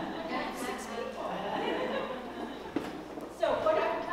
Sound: laugh

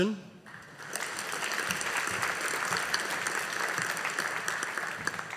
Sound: audience applauding

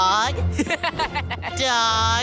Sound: laughing

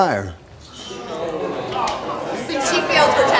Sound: audience shouting

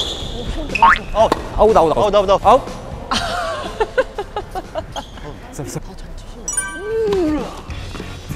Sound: laughing

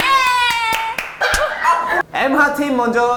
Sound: slap!

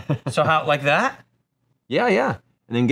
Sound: laughing

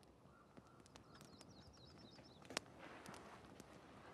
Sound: birds chirping

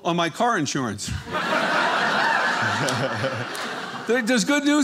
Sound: audience laughing

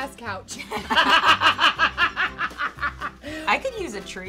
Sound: laughing

